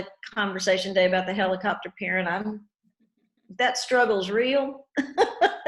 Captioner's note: laughs